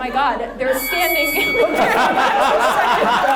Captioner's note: bell dings; everyone laughs